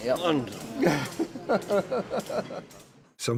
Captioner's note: jackson laughing